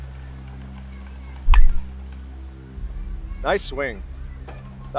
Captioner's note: bat pinging